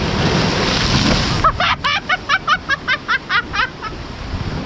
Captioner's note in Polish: śmiech